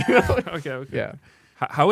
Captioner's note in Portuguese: risos